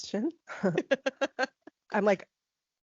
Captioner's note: laughing